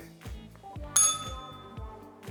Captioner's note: bell rings